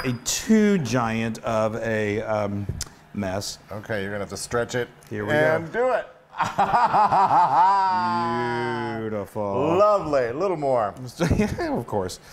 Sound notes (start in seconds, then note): 6.4 laugh